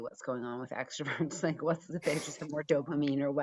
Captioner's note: chuckles